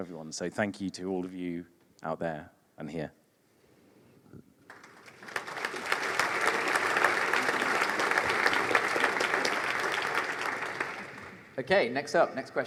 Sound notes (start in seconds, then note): 4.6 applause